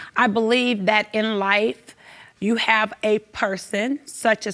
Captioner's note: none